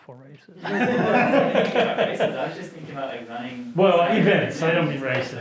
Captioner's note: students laughing